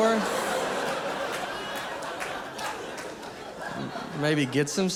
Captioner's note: audience laughing